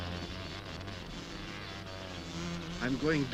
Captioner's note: wasps buzzing